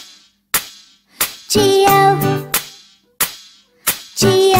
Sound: clap; clap

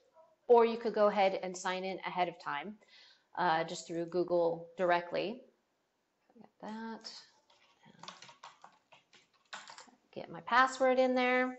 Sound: typing sounds

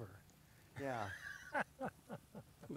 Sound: laughs

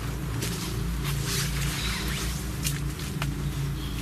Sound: birds chirping

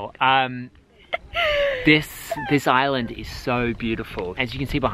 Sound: laughs

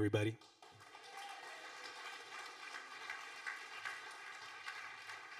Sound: audience applauding

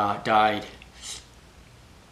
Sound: slurp

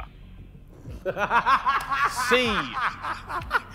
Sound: Ethan laughing

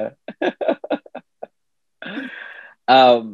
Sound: chuckles

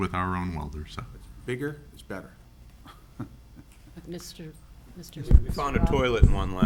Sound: giggles

